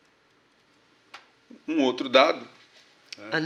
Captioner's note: speaking portuguese